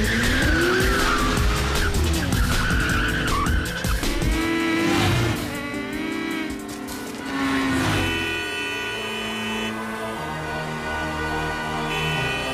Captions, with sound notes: I don't suppose that's the welcoming committee. [wheels sputtering]